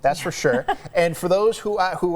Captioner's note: laughs